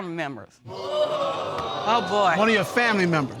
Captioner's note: audience gasps